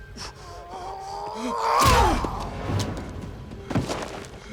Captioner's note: Knox grunting